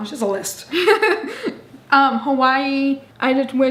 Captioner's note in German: lacht